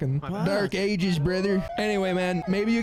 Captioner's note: hick accent